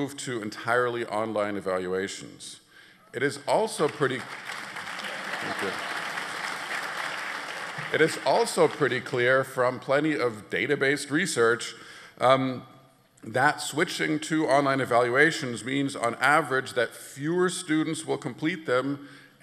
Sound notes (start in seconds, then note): 5.3 applause